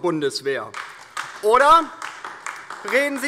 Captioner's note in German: Beifall DIE LINKE